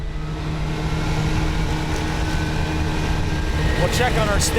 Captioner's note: car engine